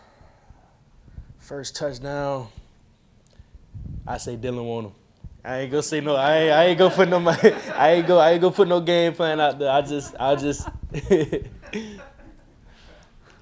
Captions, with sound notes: - First touchdown? I say Dylan Wonnum. I ain't going to say no (laughing), I ain't going to put no money, I ain't gone put no game plan out there. I just, I just. (laughing)